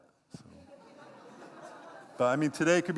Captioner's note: laughter